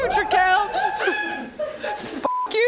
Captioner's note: off-stage richly deserved cheering